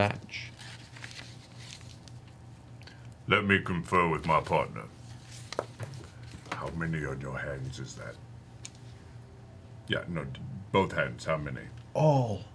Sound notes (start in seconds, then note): 6.4 whispers